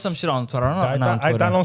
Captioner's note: speaking In Foreign Language